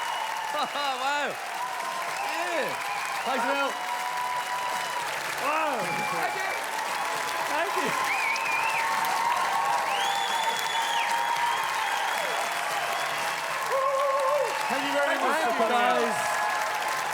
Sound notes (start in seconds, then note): 0.2 loud Overexcited Cheers and Clappin; 8.9 whistles and cheers from the audienc; 11.8 standing ovation with clappin; 16.9 audience cheering, whooping and clappin